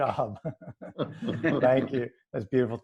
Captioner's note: laughing